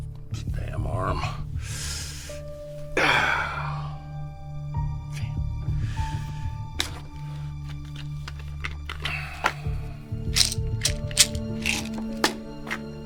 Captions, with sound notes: This damn arm. (hisses) (Dr. Jamison grunts) (tense music continues)